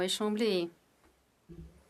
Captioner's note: speaking French